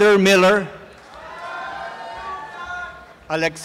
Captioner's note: applause and cheering